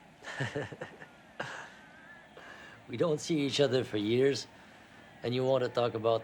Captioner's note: laughs